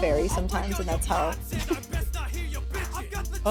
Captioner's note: chuckles